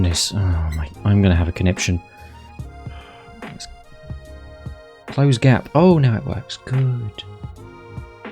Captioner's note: sigh